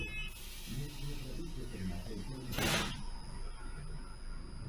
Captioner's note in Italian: porte si chiudono